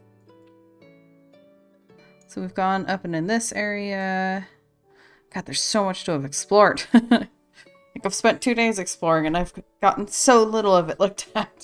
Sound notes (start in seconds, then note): 7.0 laughs